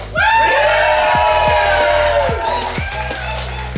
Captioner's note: cheering & Clapping